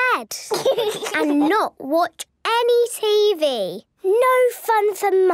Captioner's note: laugh